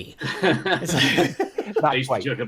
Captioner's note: group laughs